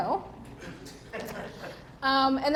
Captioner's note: audience members laugh